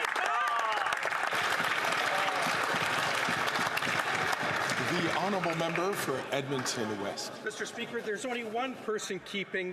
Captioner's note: some Applause